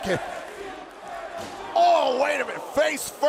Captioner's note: crowd cheering